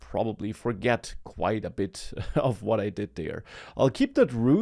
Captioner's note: laughs